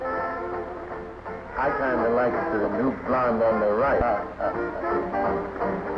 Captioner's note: chuckling